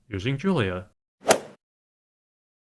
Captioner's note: swoosh